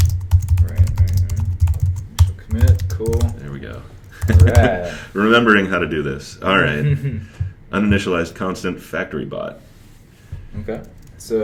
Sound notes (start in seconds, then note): 4.1 laughs; 6.8 chuckles